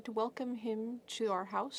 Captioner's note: speaking French